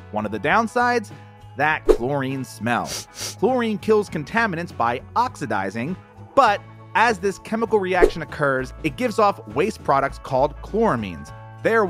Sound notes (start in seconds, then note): 2.8 sniffs